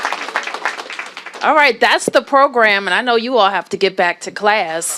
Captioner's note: applause